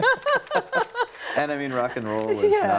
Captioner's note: laughing